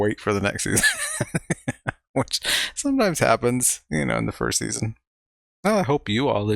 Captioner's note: chuckling